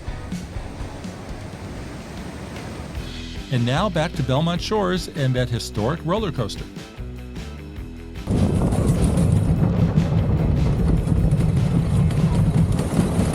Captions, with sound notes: And now, back to Belmont Shores and that historic roller coaster. (coaster rumbling)